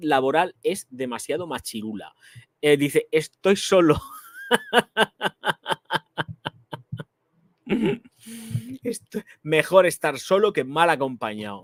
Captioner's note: laughs